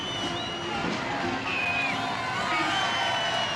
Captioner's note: crowd cheering